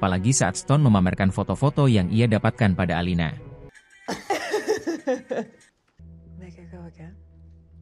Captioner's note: laughs